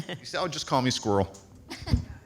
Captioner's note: light laughter